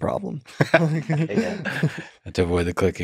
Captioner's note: both laughing